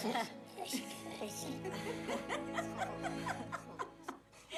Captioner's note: laughter